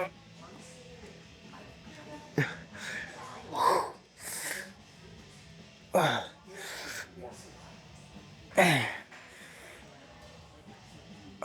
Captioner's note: grunting